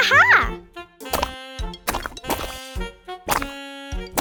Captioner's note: squishing